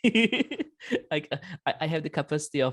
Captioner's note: laughs